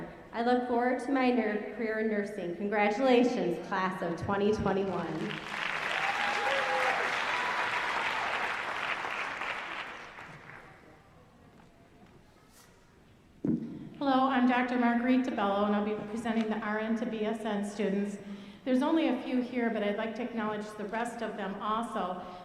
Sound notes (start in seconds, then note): 5.0 applause